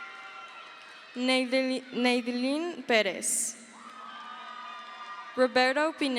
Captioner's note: crowd cheers